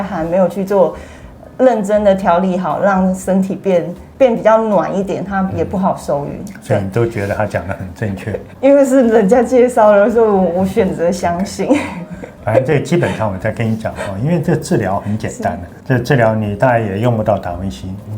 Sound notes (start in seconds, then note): 11.3 laughing